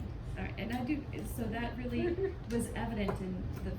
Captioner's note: chuckles